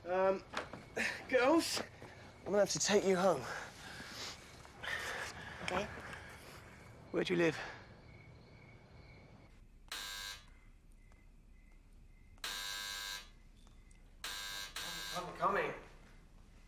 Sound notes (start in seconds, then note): 9.9 bel pintu berdengung; 12.6 bel pintu terus berdengung